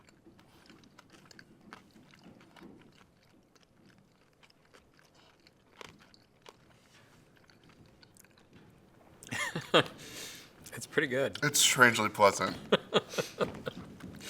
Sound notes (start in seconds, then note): 9.2 chuckles